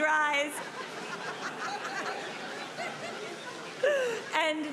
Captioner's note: audience laughing